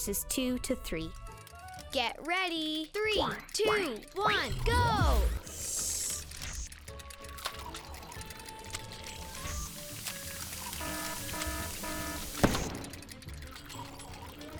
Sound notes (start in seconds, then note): 8.3 machine working; 10.7 alarm sounding; 12.4 explosion